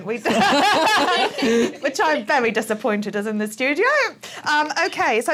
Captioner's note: laughing